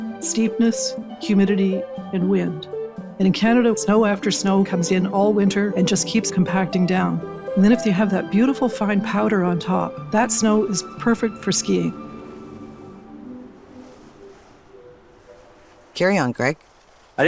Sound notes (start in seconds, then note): 12.8 birds chirping; 13.6 skis gliding on snow